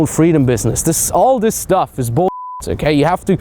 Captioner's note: beep